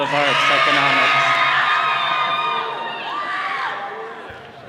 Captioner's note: all cheering